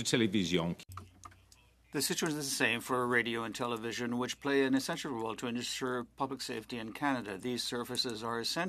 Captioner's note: speaking French